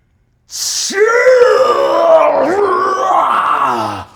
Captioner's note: Brennan shouts